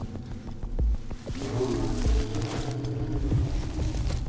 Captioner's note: animal growls